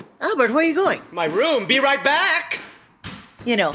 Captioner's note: sound of Albert marching upstairs